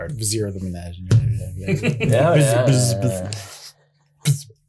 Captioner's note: makes bee sounds